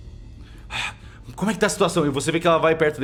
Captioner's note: sighs